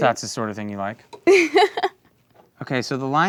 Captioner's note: laughs